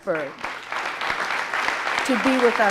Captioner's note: audience applauding